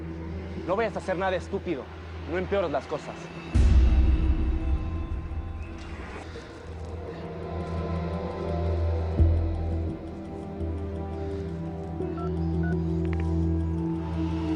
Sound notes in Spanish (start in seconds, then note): 7.2 Lo insulta en inglés